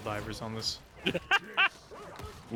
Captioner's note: laughter